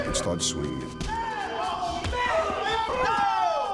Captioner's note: hard thud